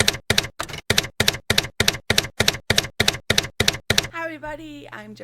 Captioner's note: typewriter keys clacking